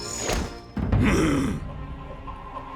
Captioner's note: groaning